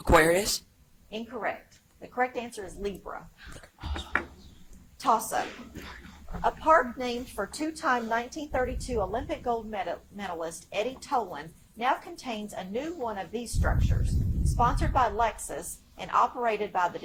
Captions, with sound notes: - Aquarius? - Incorrect. The correct answer is Libra. - (whispers) Ohh! Toss up. (audience member coughs) A park named for two-time 1932 Olympic gold medalist, Eddie Tolan, now contains a new one of these structures, sponsored by Lexus and operated by